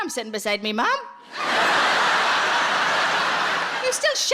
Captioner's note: audience laughing